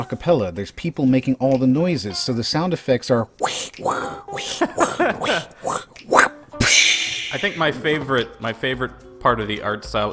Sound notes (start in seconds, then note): 3.3 makes sound effect noises; 5.1 laughs